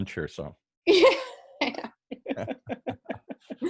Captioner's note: laughs